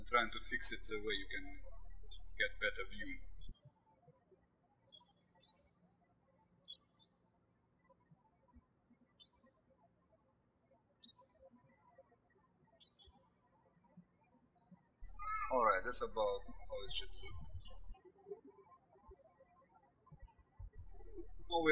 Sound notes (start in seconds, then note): 4.7 birds chirping